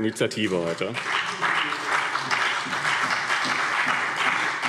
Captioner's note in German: Beifall BÜNDNIS 90/DIE GRÜNEN und CDU